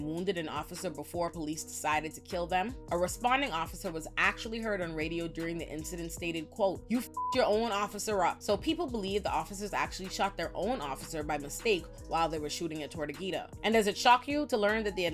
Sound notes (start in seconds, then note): 7.1 beep